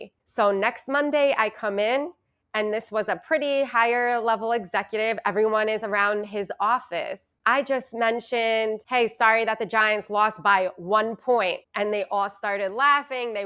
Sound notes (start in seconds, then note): none